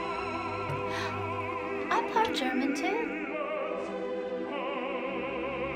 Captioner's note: gasps